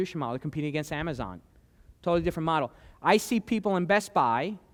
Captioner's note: none